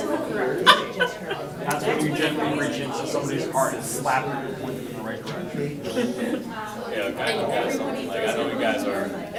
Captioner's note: laughter